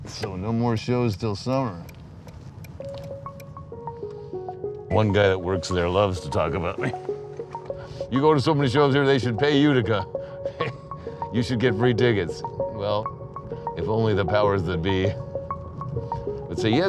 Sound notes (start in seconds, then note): 1.0 turn signal clicking; 10.5 chuckles